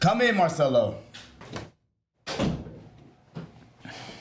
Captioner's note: door closes